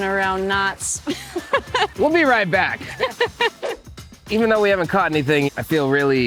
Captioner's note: laughing